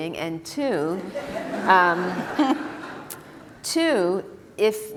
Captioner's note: laughter